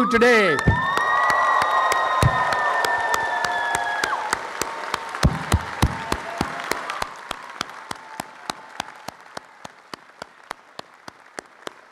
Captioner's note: applause and cheering